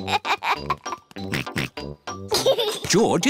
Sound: giggles; oinks

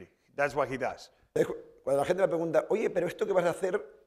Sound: speaking spanish

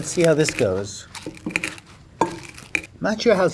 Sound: kale crunches

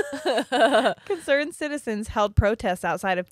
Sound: laughs

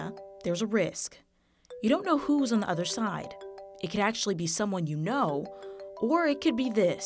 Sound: phone ringing

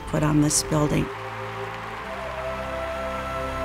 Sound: cheering; inspiring music

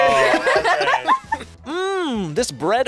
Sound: both laugh

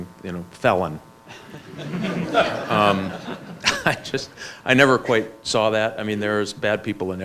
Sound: laughs

